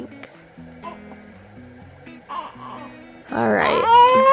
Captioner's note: baby gurgling